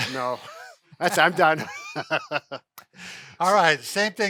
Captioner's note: laughs